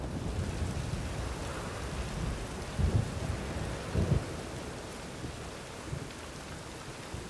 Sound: rain pattering

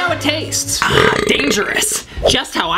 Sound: belches loudly

